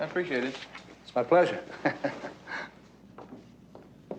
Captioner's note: chuckles